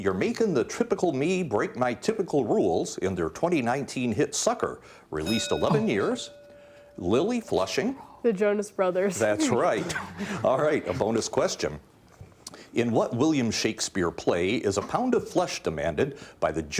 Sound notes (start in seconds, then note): 5.2 bell dinging; 9.2 laughing